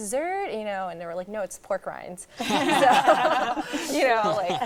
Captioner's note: laughing